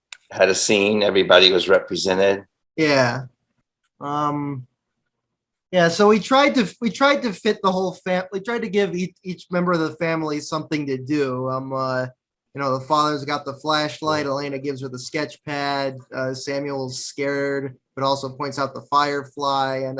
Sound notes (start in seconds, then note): none